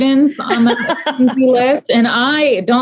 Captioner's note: laughing